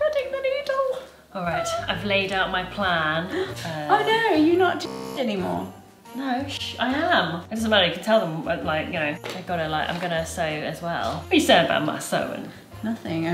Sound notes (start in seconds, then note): 5.3 beep